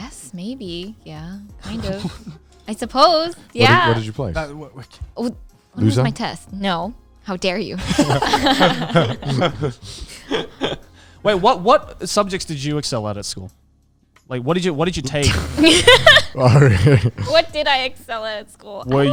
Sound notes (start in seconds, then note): 7.8 all laughing; 15.2 laughing